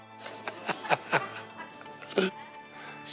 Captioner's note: laughs